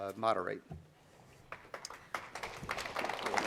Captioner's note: applause